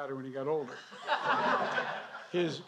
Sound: laughter

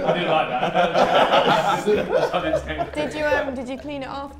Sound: everyone laughs

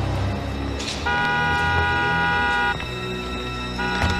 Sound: horn honks

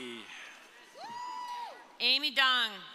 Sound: audience cheering

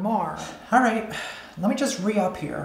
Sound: sighs

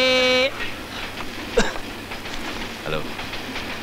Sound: coughs

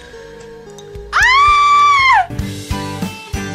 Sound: scream

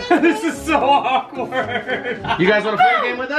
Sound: laughs

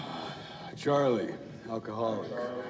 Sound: sighs

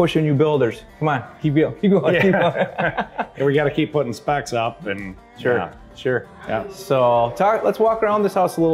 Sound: chuckles

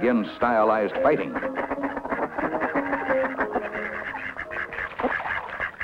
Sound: duck sounds

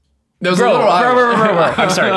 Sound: innocent mumbles

